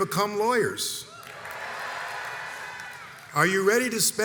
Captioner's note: crowd cheers enthusiastically